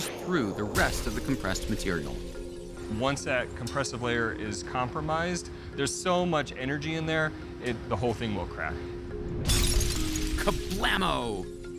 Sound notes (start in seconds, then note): 9.4 glass shatters